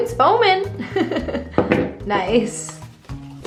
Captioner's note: laughs